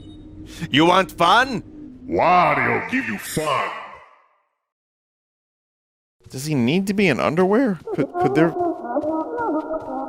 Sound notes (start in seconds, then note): 1.9 deep voice